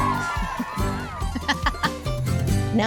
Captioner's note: laughing